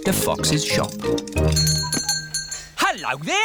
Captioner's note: bell ringing